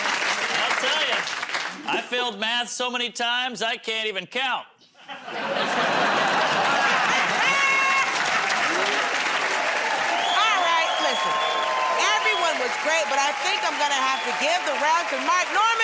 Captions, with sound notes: -I'll tell ya. I failed math so many times, I can't even count. [ Laughter ] -All right, listen, everyone was great, but I think I'm gonna have to give the round to Mark Normand